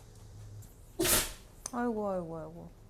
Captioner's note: achoo